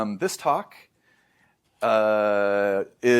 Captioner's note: inhales